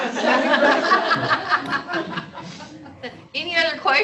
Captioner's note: laughter